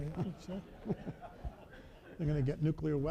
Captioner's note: audience laughing